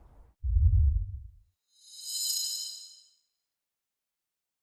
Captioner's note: logo whooshing